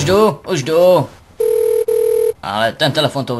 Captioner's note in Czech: zvonění telefonu